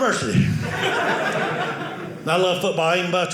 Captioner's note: audience laughing